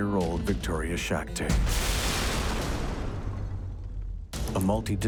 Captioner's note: thunderous explosion; glass crashing